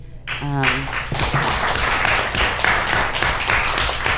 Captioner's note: audience applauds